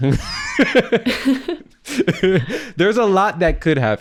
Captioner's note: laughter